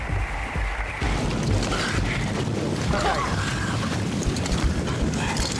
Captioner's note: water sloshes